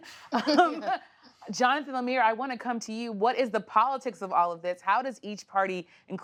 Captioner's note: laughter